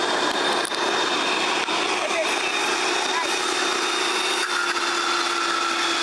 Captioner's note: audience giggling; giggling